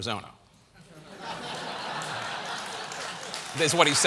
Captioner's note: laughter; applause